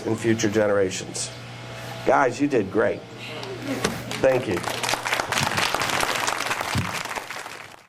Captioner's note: applause